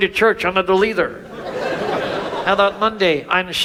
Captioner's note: audience laughs